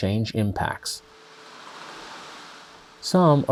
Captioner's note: heavy rain pounding